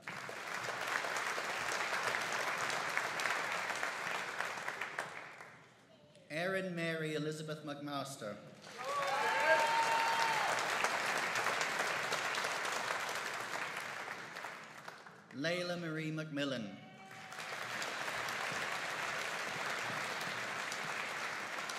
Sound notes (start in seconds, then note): 0.0 audience applauding; 8.6 audience cheering and applauding; 17.0 audience applauding